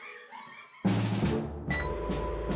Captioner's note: beep